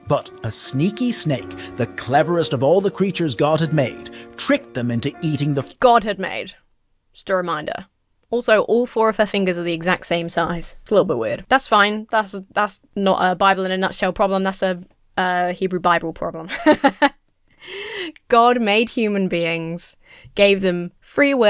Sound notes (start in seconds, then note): 16.4 laughs